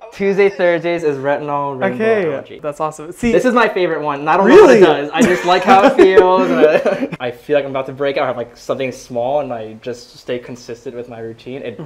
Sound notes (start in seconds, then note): 5.2 laughs